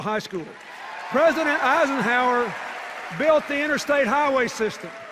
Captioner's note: applause and cheers